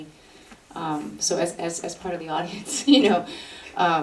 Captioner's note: laughs